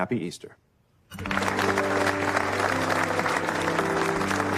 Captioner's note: applause